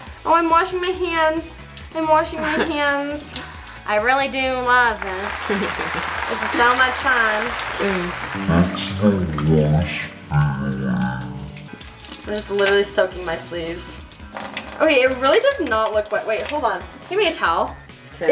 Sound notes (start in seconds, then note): 4.8 audience applauding; 5.2 laughing